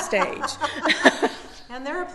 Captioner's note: both laughing